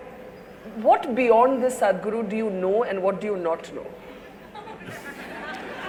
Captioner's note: laughter